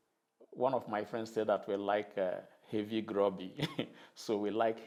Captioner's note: chuckles